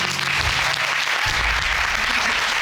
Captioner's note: audience clapping